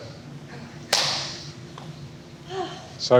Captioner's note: palms tapping